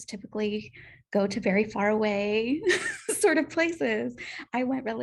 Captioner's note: laughter